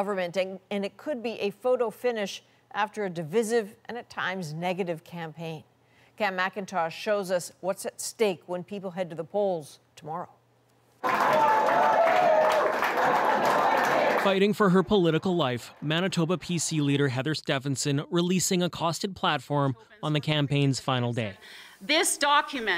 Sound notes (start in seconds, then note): 12.9 applause